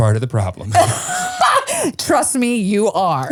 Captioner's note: laughs